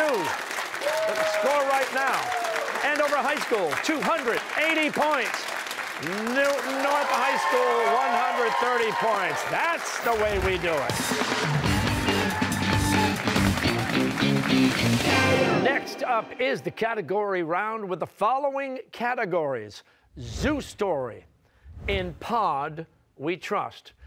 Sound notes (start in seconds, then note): 11.4 cheers and applause